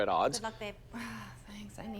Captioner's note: exhales